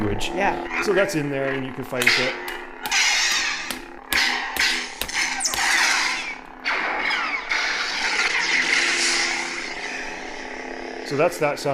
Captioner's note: lightsaber sound plays